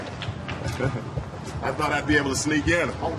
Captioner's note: chuckles